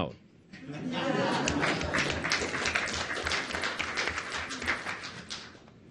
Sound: audience laughs and applauds

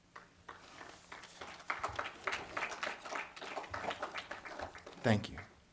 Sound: clapping

